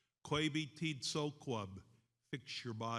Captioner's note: speaks in foreign language